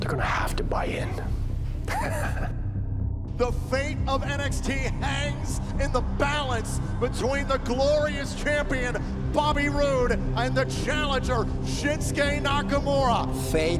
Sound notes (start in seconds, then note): 1.8 chuckling